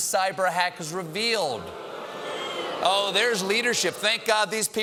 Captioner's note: audience reacts